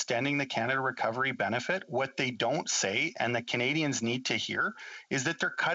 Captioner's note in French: voix de l'interprète